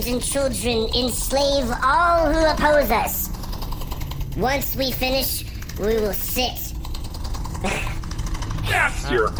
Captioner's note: barely-restrained laughing